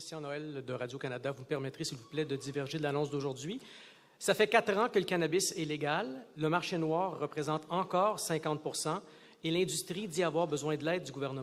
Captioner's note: speaking French